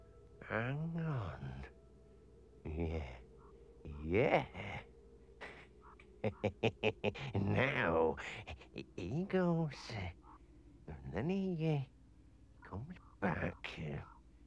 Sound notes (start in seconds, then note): 6.1 henchman chuckles